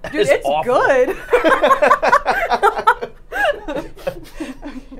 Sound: both laughing

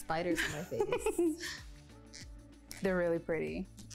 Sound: laughing

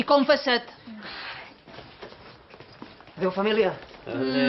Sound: laughs

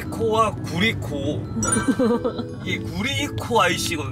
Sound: ha ha ha

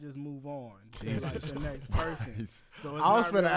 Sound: laugh

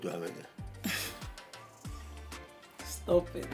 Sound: chuckling

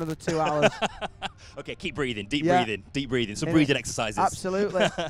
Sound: laughs

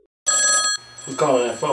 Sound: phone rings

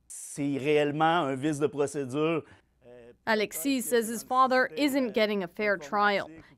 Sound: speaking French

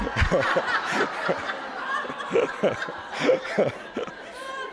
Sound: audience laughter

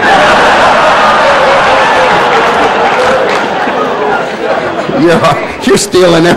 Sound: laughter

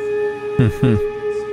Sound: laughs

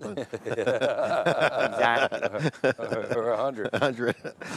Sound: laughing

